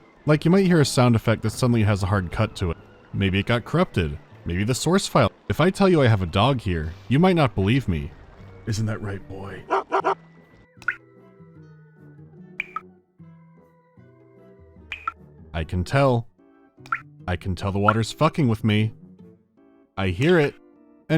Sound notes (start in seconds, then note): 10.8 drip; 12.6 bi-dip; 14.9 bi-dip